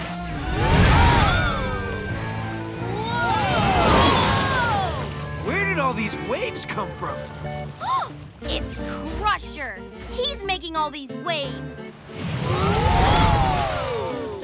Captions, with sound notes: [screaming] Whoa! Where did all these waves come from? [gasping] It's Crusher! He's making all these waves! [screaming]